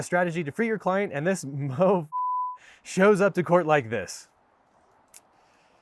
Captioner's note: beep